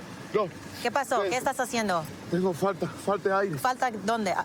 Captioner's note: speaking spanish